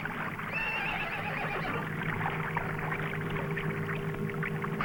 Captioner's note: horse whinnying